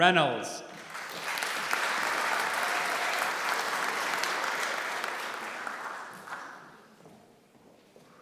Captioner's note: applause